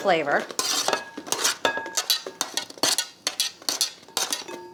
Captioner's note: spatula scrapes